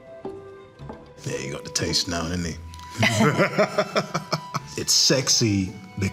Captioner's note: laughing